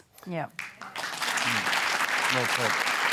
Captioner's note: applause